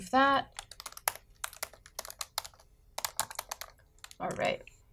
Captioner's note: typing sounds